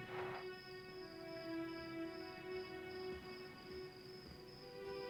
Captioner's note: crickets chirping